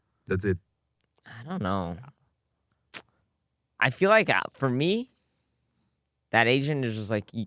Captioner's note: smacks lips